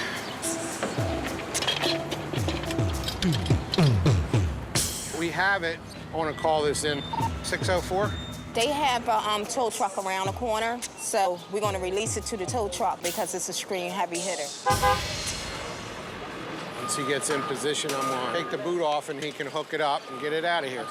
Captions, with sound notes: We have it. I'm going to call this in. 604? They have a tow truck around the corner. So we're going to release it to the tow truck because it's an extreme heavy hitter. [horn honks] Once he gets in position, I'm going to take the boot off and he can hook it up and get it out of here.